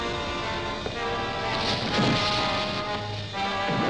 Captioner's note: thudding